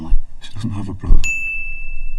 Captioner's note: ding